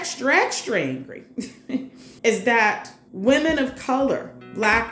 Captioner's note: chuckles